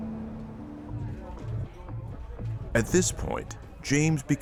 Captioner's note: patrons faintly speaking